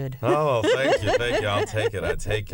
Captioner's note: laughter